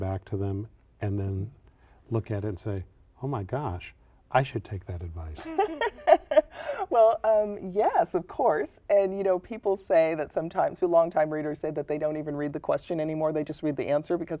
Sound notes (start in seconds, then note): 5.4 laughter